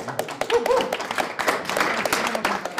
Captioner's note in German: Applaus, Jubel